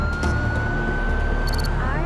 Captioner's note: siren wailing